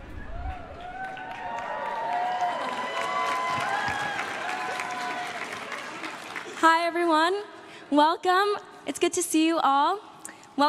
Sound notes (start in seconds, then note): 0.0 crowd claps and cheers